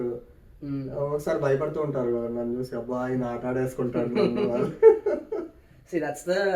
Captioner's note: laughs